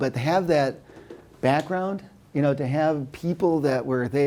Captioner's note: none